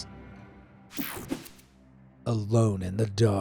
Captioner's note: transition slashes